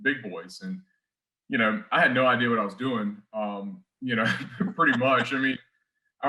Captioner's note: chuckles